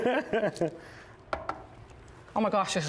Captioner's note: laughter